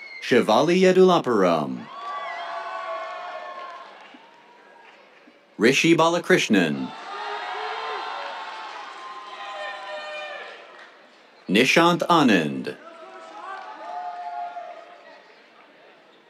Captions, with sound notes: Shivali Yedulapuram. [CHEERS, APPLAUSE] Rishi Balakrishnan. [CHEERS, APPLAUSE] Nishanth Anand. [CHEERS]